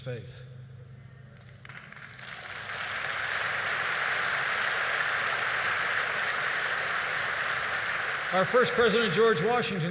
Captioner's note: applause